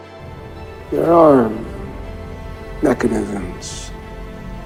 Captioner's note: voiceover